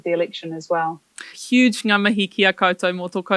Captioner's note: speaking foreign language